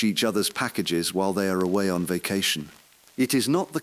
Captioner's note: exhale